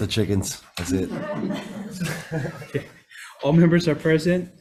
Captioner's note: public laughs